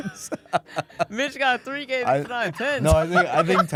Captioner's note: laughs; laughs